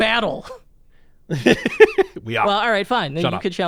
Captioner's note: laughs